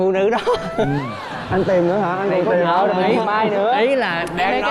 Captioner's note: laughing